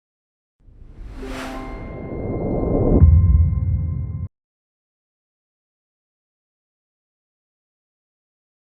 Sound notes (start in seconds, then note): 0.7 SOUND: Woosh and chime